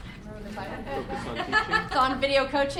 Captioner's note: voiceover; laughter